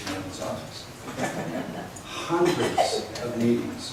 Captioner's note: laughs